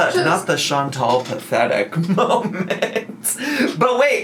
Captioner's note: laughs